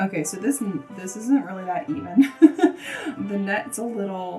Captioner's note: laughs